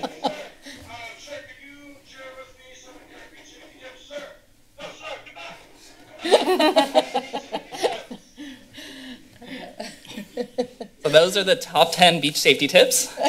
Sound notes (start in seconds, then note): 6.2 laughter